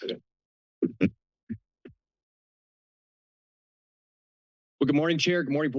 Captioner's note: silence